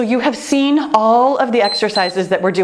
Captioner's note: timer beeps